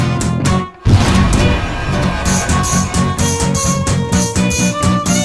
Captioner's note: explosion